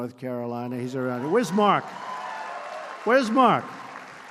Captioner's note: applause